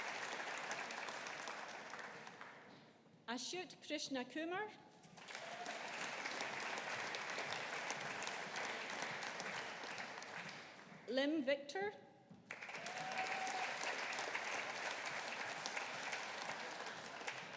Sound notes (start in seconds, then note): 5.1 audience applauding; 12.4 audience applauding